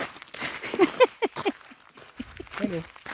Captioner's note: laughs